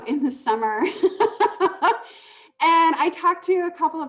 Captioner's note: laughing